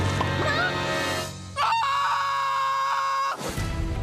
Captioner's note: screaming